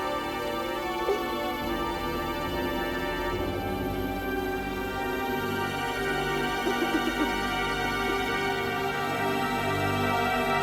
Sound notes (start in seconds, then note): 6.7 Cathy crying